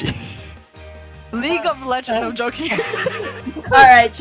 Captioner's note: laughs